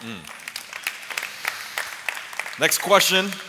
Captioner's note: applause